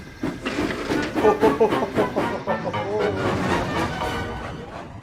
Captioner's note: Thomas laughs